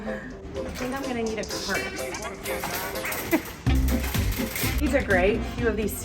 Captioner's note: laughs